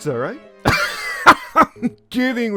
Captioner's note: laughs